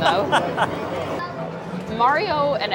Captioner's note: laughs